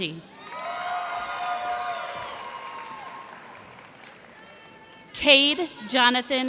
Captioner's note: cheers and applause